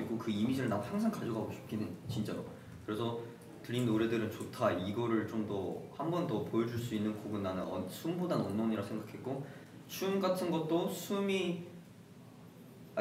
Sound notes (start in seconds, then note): 9.4 Breathing